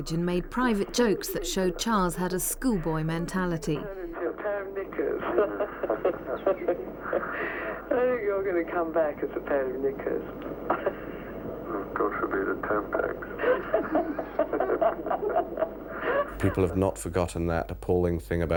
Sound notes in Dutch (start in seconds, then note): 7.2 lacht; 11.2 lacht; 13.8 lacht